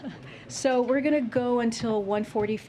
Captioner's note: laughs